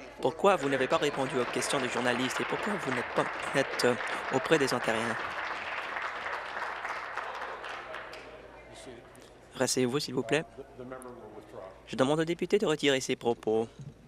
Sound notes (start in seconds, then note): 4.6 applause